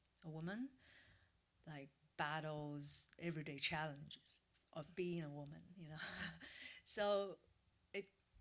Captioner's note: laughs